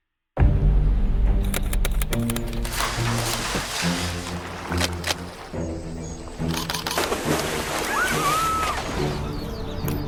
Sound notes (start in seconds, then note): 0.5 soft, upbeat music; 1.4 camera shutter clicking